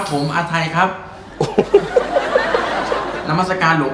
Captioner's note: laughter